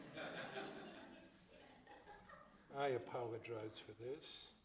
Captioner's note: audience laughing